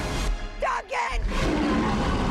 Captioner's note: roaring